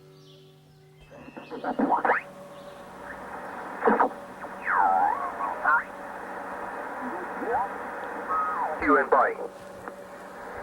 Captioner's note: ham radio sounds